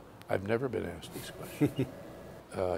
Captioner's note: laughter